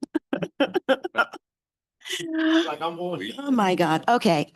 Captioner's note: laughter